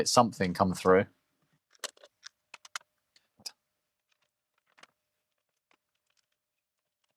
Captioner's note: keyboard Clicking